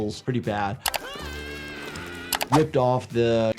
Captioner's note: Disco Bear screams